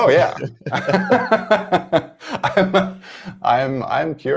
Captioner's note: laughter